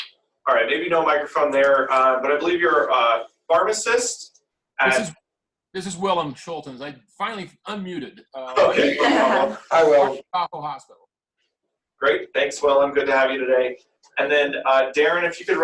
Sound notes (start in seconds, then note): 8.1 laughter